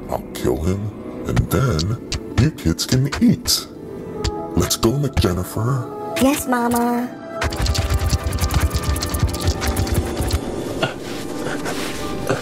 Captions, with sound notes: I'll kill him and then you kids can eat. Let's go McJennifer. - Yes mama. (scorpions scurry)